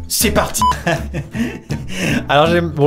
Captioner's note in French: rires